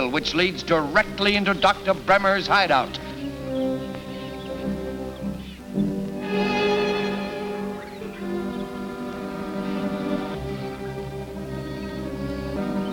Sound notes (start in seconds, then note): 5.6 birds chirping; 5.6 soft orchestral music